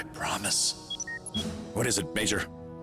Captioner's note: communicator beeps